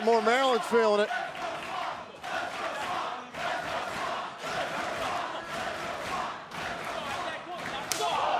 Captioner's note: crowd cheering